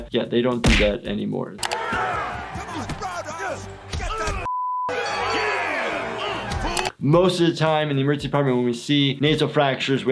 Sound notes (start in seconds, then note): 4.5 beep